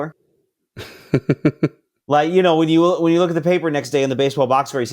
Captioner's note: laughing